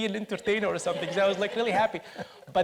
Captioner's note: audience laughs